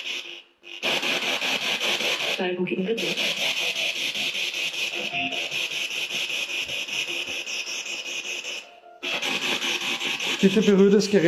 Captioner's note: radio noise from the spirit box